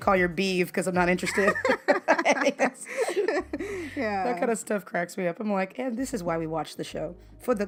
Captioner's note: laughter